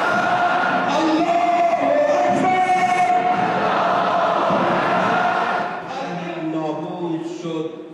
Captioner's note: Arabic spoken language